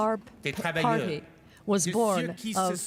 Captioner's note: speaking french